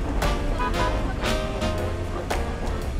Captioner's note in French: klaxon